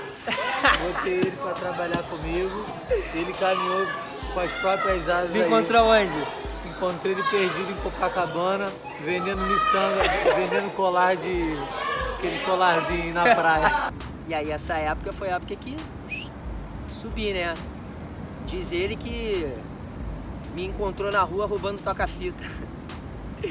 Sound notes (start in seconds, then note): 13.3 laughs